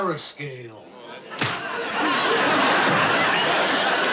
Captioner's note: whack